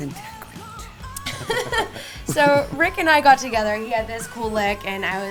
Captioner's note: laughing